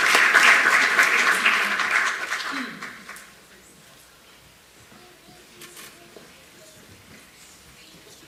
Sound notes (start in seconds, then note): 0.0 applause